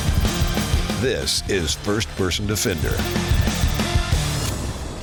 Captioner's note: whooshing; high-pitched beeping; whooshing